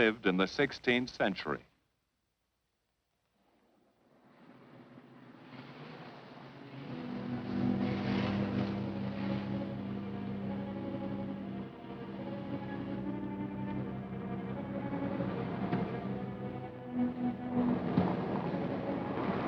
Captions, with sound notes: in the 16th century. (Car engine rumbling) N